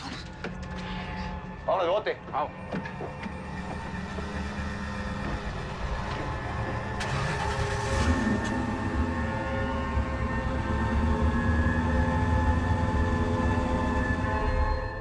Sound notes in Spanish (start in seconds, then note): 6.0 Sonido al cerrar la puerta; 6.8 Sonido al arrancar la camioneta